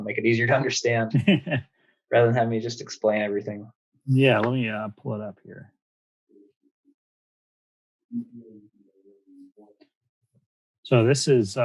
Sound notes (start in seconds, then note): 1.1 laughs